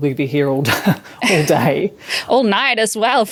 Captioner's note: chuckles